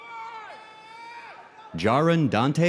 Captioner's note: audience cheering